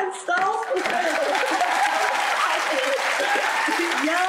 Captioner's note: audience applause